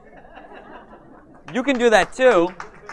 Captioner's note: audience laughs